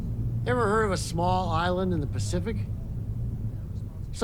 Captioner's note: none